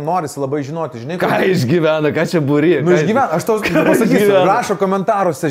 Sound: chuckles

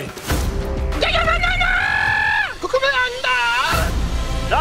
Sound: incoherent yelling

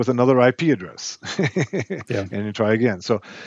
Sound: chuckles

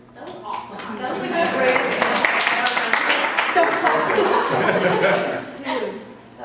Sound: applause fills the room

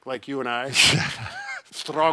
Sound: laughing

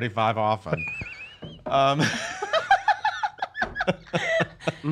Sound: everyone laughs

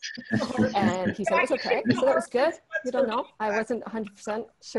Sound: laughter

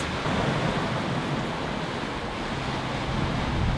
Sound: strong wind blows

